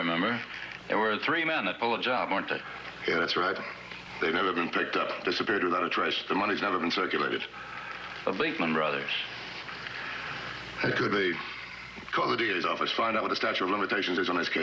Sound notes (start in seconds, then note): none